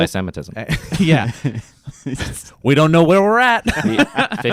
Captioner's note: chuckles